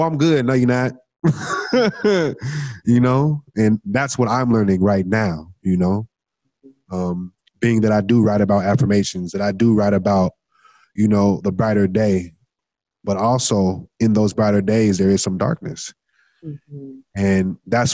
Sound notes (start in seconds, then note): 1.2 laughs